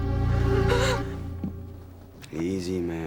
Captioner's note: gasps